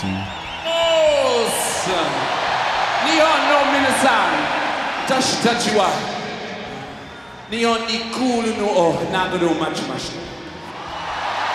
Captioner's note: speaking japanese